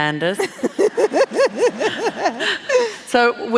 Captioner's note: laughing